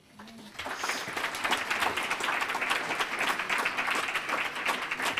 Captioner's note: applause